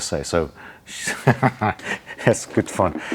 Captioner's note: laughing